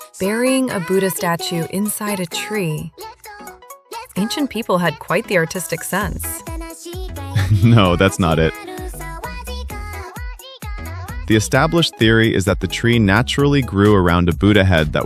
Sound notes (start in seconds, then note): 9.9 laughs